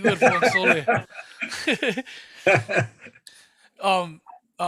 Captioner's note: laughing